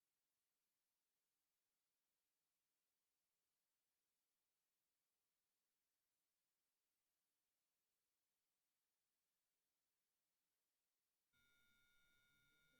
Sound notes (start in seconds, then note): none